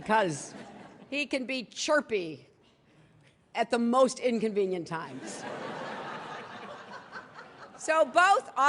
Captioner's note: laughter